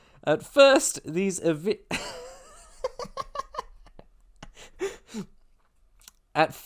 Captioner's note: laughter